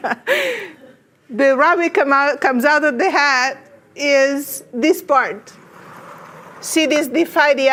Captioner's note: laughs